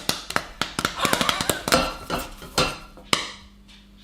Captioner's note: laughing